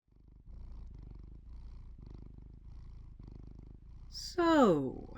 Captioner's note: Ferdinand Purrs